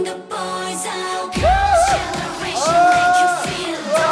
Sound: confident

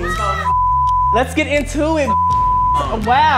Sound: beep

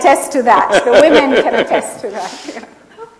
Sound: laughs

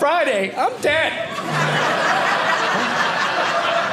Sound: audience laughing

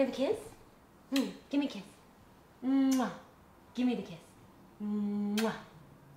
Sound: lips smacking

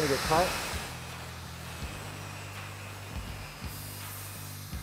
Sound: saw buzzing

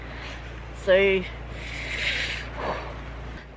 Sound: shiver

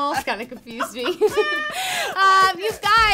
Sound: laughing

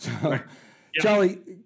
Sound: chuckling

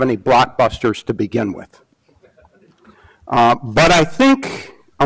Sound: audience laughs

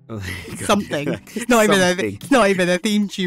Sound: both chuckle

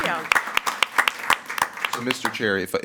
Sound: audience clapping

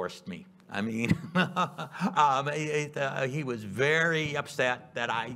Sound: chuckles

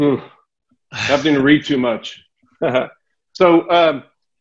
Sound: laughs

